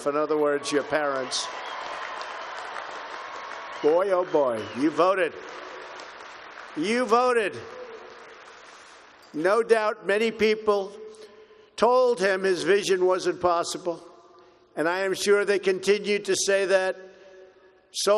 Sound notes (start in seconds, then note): 2.4 applause